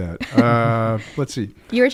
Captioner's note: laughs